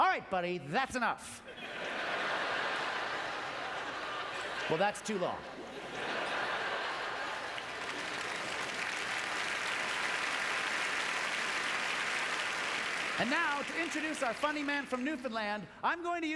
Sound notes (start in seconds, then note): 1.5 audience laughter; 8.1 applause